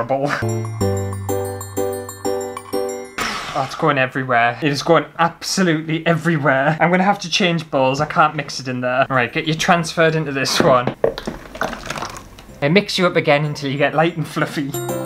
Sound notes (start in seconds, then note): 0.4 christmas Music; 11.0 sloppy sounds; 14.6 christmas Music